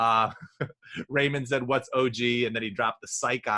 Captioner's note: chuckles